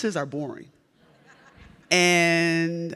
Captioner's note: audience laughs